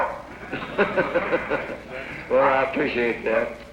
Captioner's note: laughter